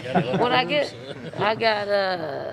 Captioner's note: laughing